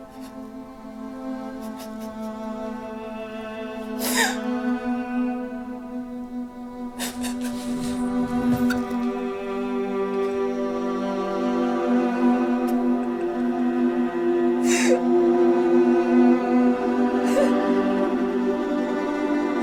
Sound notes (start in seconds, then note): 3.6 sobs; 11.1 sad music